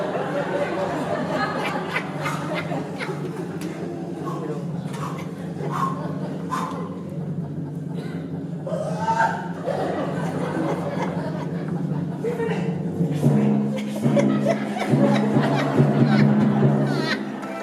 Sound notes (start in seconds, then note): 0.0 FLORIAN, a terrified whisper; 0.0 laughter, low timpani roll; 8.0 FLORIAN gives a little terrified shriek; 13.0 FLORIAN, terrified whisper